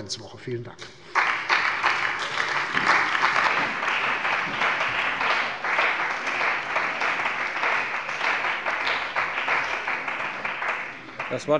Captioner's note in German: Beifall bei der CDU und dem BÜNDNIS 90/DIE GRÜNEN